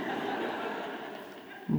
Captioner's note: audience laughing